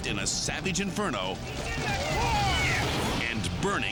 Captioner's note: people yelling